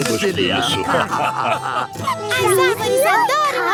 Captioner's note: laughing